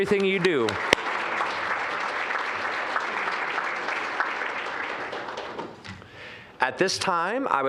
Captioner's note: applause